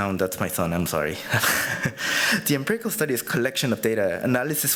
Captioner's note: chuckles